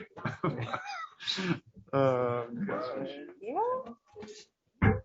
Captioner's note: background chatter